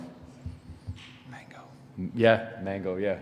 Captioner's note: whispers